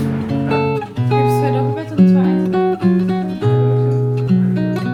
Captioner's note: speaking German